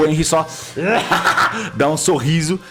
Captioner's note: laughs